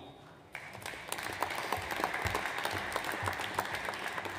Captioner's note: audience applauds